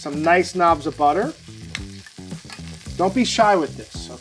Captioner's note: funky upbeat music; pan sizzling